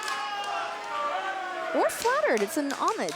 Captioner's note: crowd cheering